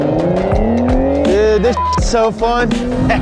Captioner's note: beep; laughs